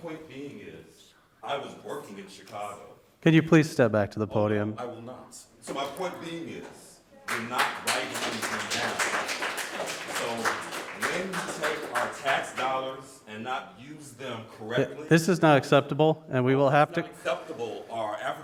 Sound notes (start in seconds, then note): 7.3 speaking faintly; 9.1 audience applauding; 11.9 speaking faintly